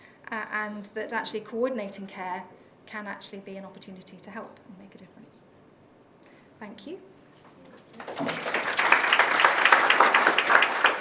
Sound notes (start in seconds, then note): 7.8 applause